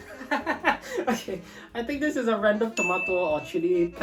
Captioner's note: laughing